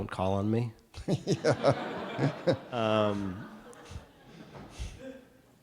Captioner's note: audience laughing